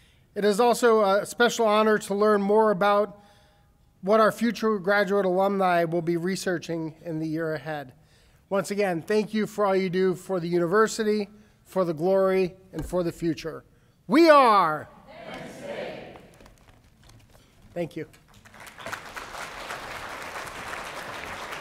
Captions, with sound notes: It is also a special honor to learn more about what our future graduate alumni will be researching in the year ahead. Once again, thank you for all you do for the university, for the glory and for the future. We are. - [Crowd] Penn State. - Thank you. (applause)